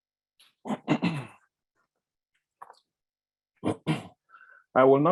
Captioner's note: clears throat